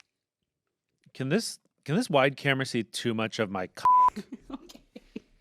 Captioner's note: beep; laughs